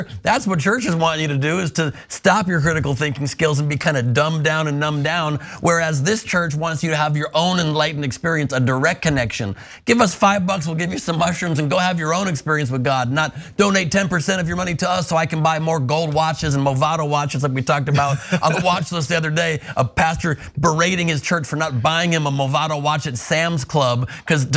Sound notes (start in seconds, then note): 17.9 laugh